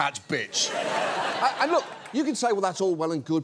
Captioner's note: audience laughs